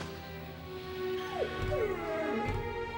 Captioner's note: dog whining